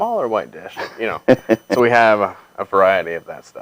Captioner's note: laughing